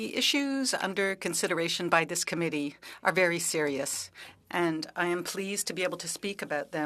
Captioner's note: speaking French